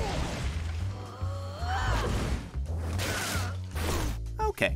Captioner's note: grunting